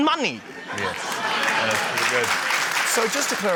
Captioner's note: laughter, applause